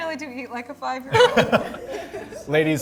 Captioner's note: laughs